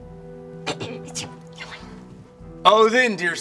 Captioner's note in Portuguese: Nessa tosse e sussura